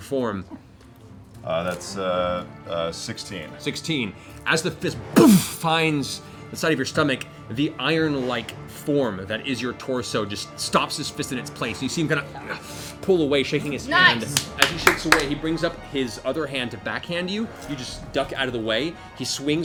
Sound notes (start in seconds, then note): 4.8 crash; 12.3 pained exhale